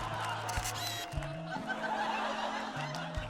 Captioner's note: camera flash clicks